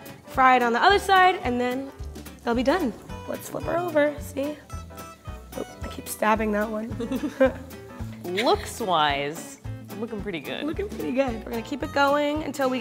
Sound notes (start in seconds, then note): 6.9 giggles